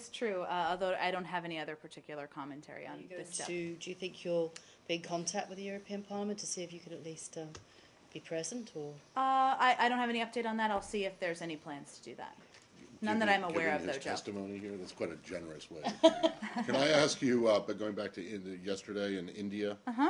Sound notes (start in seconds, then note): 15.8 laughter